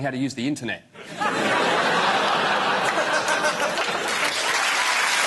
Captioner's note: audience laughs and applauds